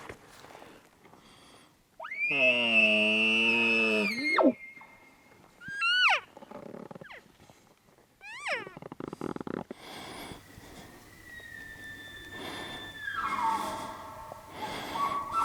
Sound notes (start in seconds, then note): 2.2 caller bugling; 5.4 caller cow calling; 9.9 caller bugling